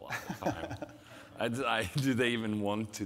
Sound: laughing

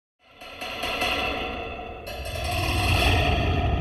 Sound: rattling pipes echoing

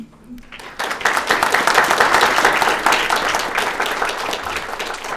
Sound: audience applauding

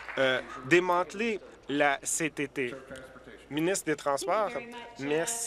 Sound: applause

